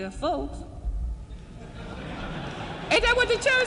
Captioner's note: laughing and applauding